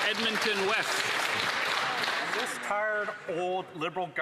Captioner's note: some Applause